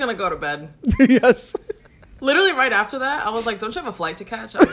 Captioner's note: laughs